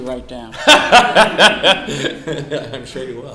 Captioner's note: laughs